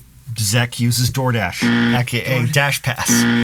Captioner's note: buzzer buzzes